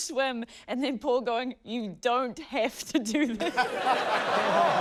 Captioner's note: laughter